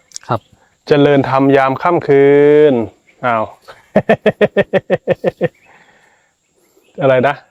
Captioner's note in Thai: เสียงหัวเราะ